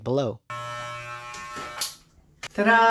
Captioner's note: buzzing sound